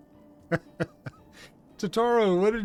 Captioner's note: laughter